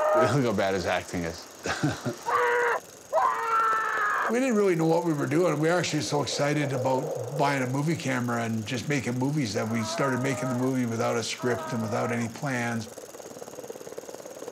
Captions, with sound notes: - Look at how bad his acting is. - [screams melodramatically] - We didn't really know what we were doing. We were actually so excited about buying a movie camera and just making movies that we started making the movie without a script and without any plans.